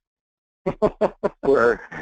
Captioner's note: laughing